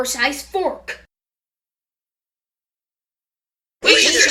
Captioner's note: grrrr